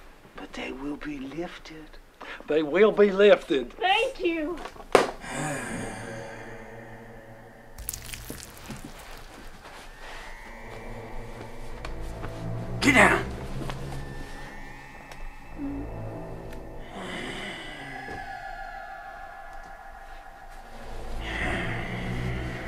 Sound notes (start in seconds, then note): 5.2 murk growls; 7.8 changeling sounds; 17.2 murk lower growl; 21.2 growl